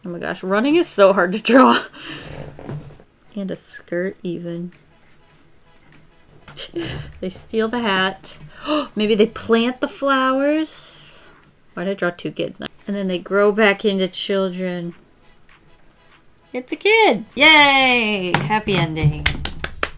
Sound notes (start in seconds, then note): 8.5 gasps; 19.2 claps